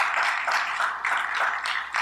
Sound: applause

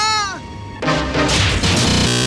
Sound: wham; clang CLANG BZZZ-ZZ--Z-ZT WHAM

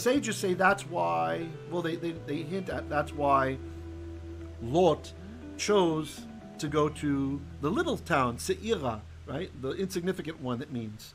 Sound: Hebrew

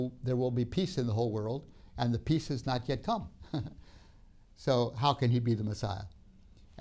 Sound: laughs

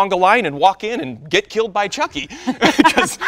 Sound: laughing

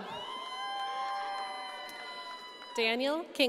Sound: audience cheering

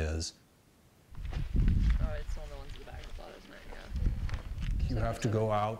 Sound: indistinct chatter

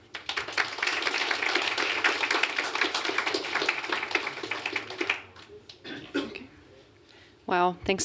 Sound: applause

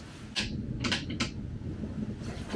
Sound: click; click click; click

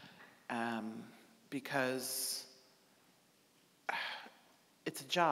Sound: sighing

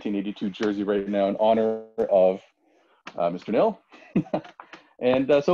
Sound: laughs

